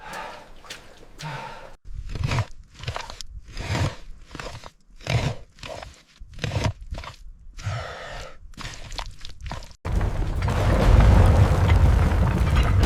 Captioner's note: water splashing